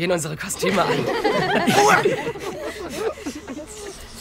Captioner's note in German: Lachen